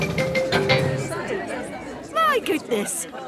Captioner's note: all murmuring